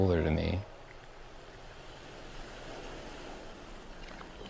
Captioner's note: waves crashing